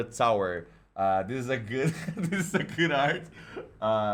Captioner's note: laugh; laughing